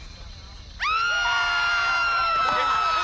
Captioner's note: screaming